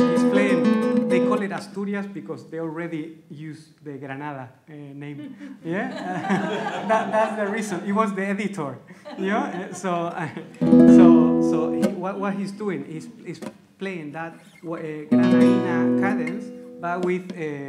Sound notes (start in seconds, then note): 0.0 plays flamenco; 5.2 laughs; 5.3 audience laughs